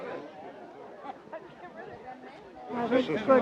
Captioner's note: people chattering